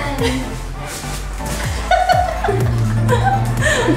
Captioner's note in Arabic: يضحك